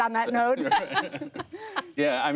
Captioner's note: laughter